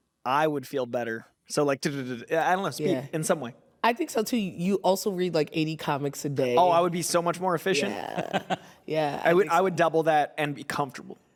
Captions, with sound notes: I would feel better. So, like, I don't know, speed in some way. I think so too. You also read, like, 80 comics a day. Oh, I would be so much more efficient. -Yeah. Yeah. -(CHUCKLES) I would double that and be comfortable.